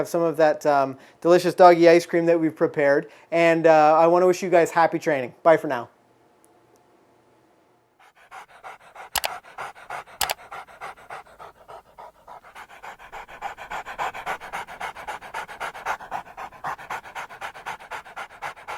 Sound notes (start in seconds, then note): 8.4 dog panting